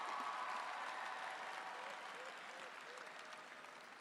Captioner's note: cheering